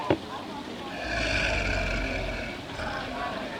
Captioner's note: waiter grunts